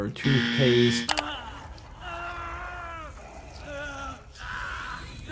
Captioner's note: Obiwan groaning